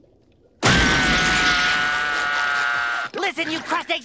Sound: screaming

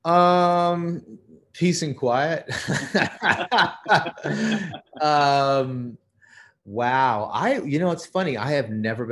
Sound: laughter

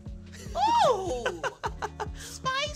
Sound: laughs

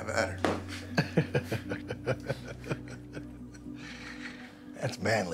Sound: laughs

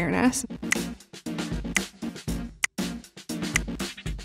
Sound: tally clicks; upbeat music

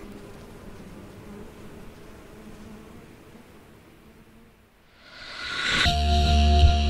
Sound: everything fades out

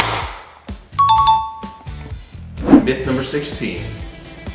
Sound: bing sound

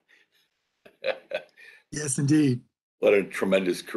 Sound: laughter

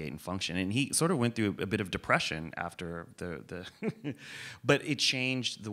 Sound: laughs

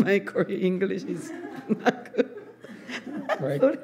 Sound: laughs

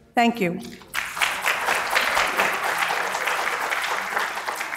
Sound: applause

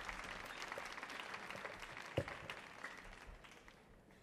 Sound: audience applauds

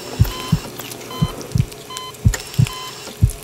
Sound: hospital machine noise; heartbeat

